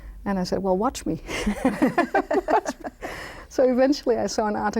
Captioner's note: laughing